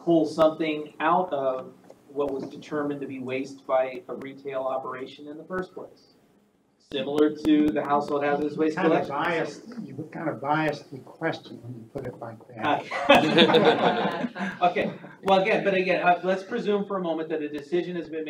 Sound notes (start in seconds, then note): 12.8 all laughing